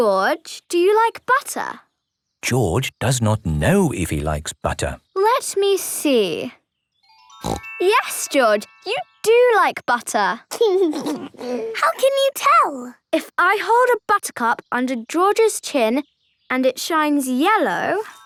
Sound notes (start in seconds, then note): 7.4 snorting; 10.6 giggling